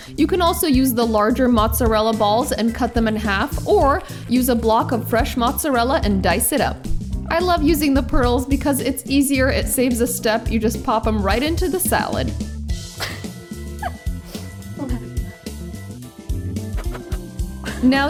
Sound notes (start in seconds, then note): 14.3 laughs; 15.4 upbeat music